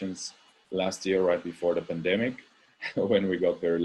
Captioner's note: laugh